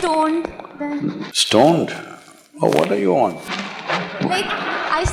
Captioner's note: laughter